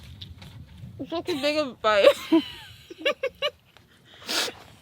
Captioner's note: laughs; laughs